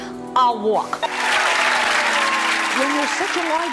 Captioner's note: audience applause